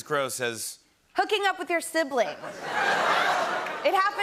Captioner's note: laughter and groans